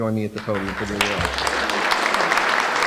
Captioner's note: applause